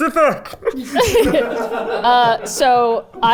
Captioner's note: everyone laughing